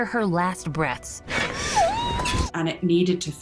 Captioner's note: muffled screaming